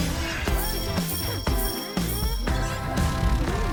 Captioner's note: jingling